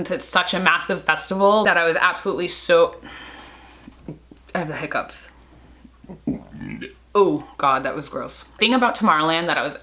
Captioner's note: sigh; burp